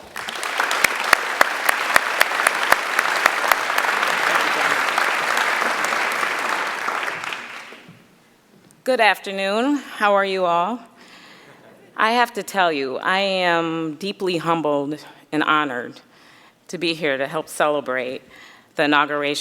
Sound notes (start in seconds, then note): 5.3 applause